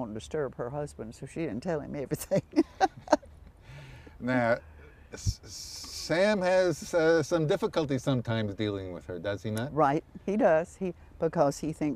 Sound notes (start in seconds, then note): 5.0 laughter